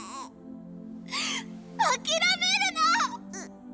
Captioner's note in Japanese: 泣き声